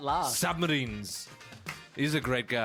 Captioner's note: clap